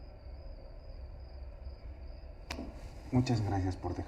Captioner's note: crickets chirping